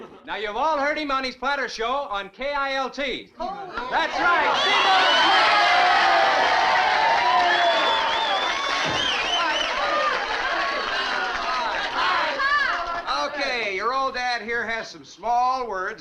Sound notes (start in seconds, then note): 5.7 crowd cheering